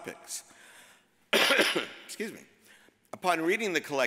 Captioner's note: coughs